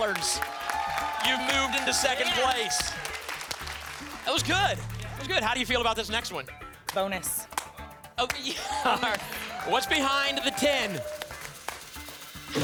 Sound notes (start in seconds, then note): 8.4 laughter